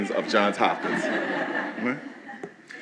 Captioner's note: laughing